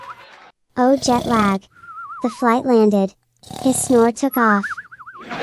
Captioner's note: laughing